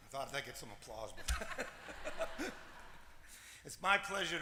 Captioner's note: laughter